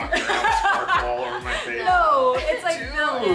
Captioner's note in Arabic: تضحك الفتيات